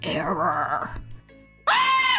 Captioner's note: scream